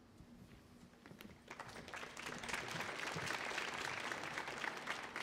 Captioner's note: audience applauds